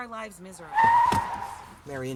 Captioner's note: tires screeching